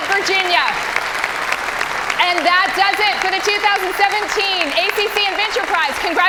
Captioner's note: applause